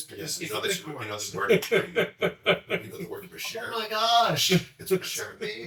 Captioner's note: laughs